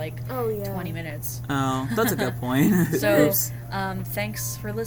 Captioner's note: laugh